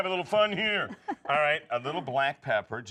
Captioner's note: laughing